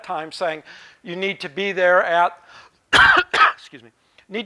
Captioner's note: coughing